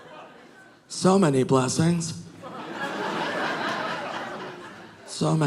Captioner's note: audience laughing